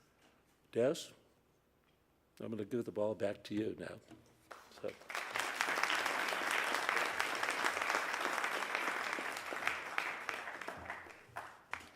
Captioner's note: applause